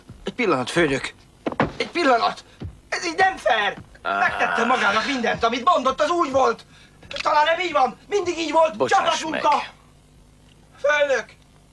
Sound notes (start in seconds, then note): 7.1 cocking gun